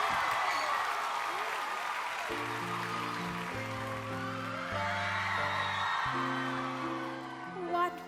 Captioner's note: cheers and applause